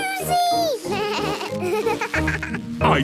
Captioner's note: bleating, laughing